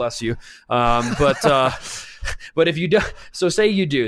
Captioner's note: laughs